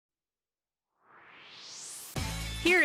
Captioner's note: swoosh